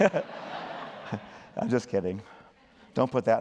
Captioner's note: laughter